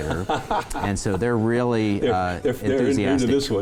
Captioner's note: chuckles